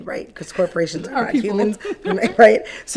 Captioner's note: chuckles